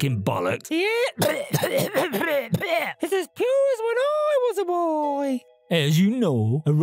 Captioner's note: coughing